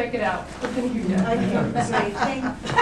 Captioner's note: laughter